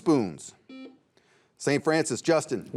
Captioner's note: buzzer beeps